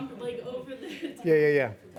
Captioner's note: laughs